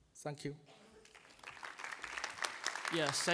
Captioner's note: applause